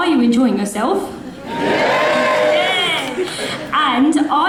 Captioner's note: audience cheers